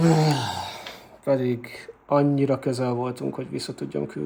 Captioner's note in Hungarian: horkantás